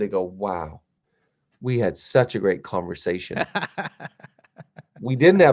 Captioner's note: laughs